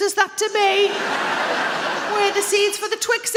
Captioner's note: audience laughs